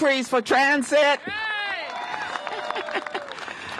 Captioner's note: cheers and applause